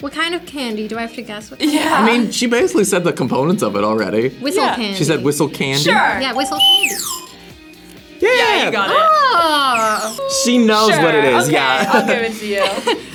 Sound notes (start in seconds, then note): 5.8 candy whistles; 9.2 laughs